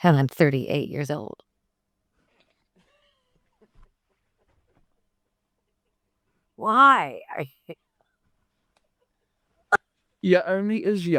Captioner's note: laughs